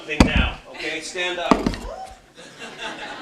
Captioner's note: laughter